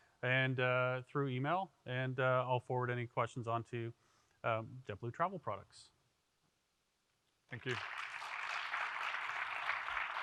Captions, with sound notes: and through email and I'll forward any questions on to JetBlue travel products. - Thank you. (applause)